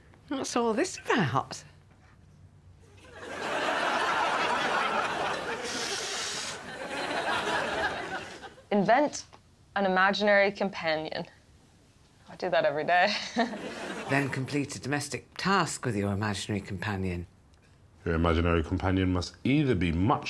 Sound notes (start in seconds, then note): 3.0 audience laughs; 13.1 chuckles